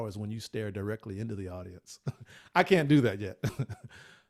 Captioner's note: laughs